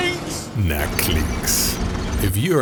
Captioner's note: fake german accent; fake fake german accent